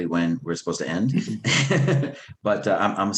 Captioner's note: laughs